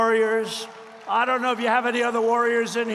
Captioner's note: applause